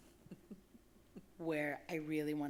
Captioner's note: chuckling